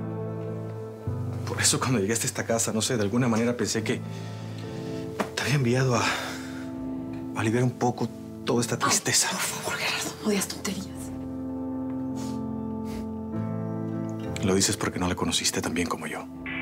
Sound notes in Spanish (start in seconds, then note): none